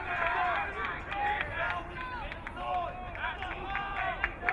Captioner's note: crowd cheering